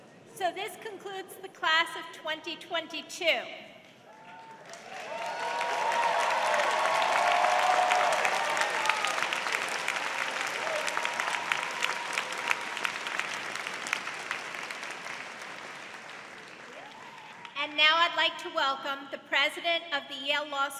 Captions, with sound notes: So this concludes the class of 2022. [CHEERING] And now I'd like to welcome the President of the Yale Law